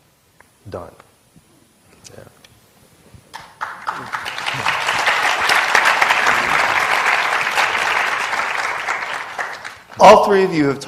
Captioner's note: applause